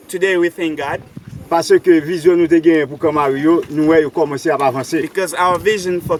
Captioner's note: speaking in foreign language; speaking in foreign language